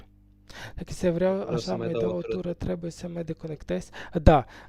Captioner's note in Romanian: voce dreasă